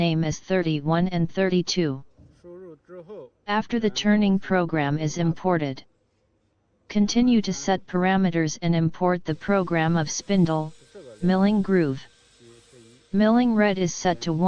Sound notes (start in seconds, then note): 9.4 milling groove